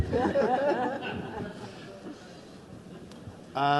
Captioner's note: audience laughs